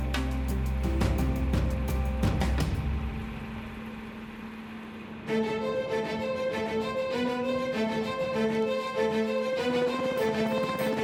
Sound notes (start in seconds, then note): 2.6 rain dropping; 5.6 stringed music